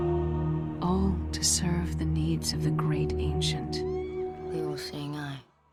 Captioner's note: eldritch laughter